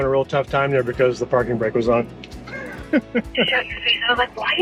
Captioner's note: laughs